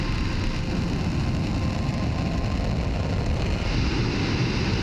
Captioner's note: rocket launcher roaring